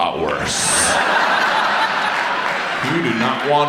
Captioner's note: audience laughs